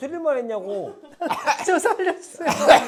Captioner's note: cough